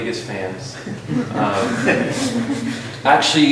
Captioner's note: laughter